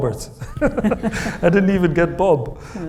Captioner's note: Hisham laughs; Kamila laughs